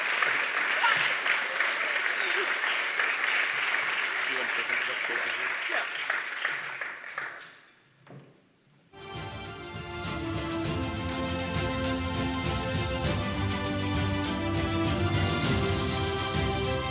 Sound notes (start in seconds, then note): 2.0 laughter; 9.1 applause